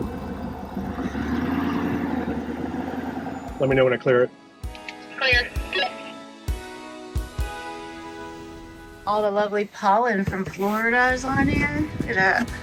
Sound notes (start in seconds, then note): 6.8 walkie talkie beeping; 12.4 gentle music